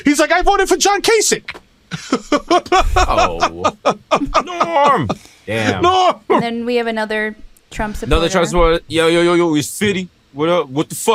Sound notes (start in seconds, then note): 1.9 laughing